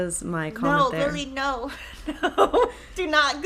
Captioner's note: chuckles